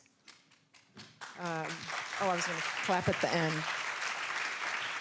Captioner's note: applause